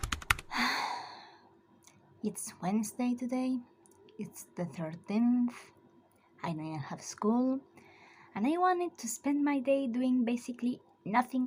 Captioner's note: sigh